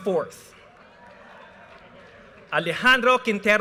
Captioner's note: audience cheers and applause